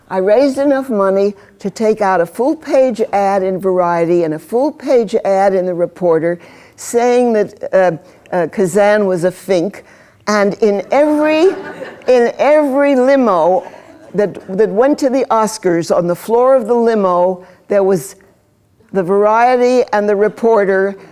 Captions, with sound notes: I RAISED ENOUGH MONEY TO TAKE OUT A FULL-PAGE AD IN VARIETY AND A FULL-PAGE AD IN THE REPORTER SAYING THAT KAZAN WAS A FINK AND IN EVERY-- [ LAUGHTER ] >> -- IN EVERY LIMO THAT WENT TO THE OSCARS, ON THE FLOOR OF THE LIMO THERE WAS THE VARIETY AND THE REPORTER